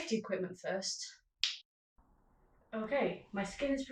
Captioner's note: snap